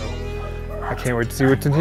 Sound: dogs barking

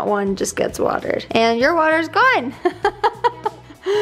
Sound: laughs

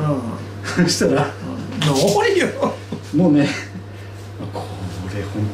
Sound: laughs

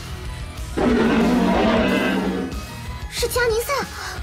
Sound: Ganesha's roar

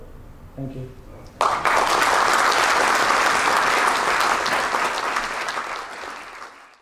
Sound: applaus

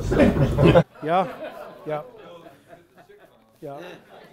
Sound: audience laughs

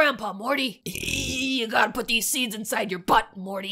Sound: burps

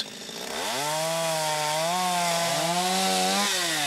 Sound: chainsaw roaring

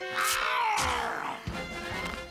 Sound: werewolf growling

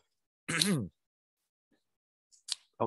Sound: clearing throat

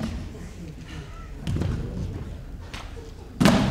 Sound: laughing

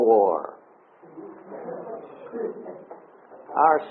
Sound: audience laughs

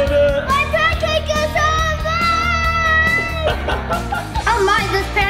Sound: laughs

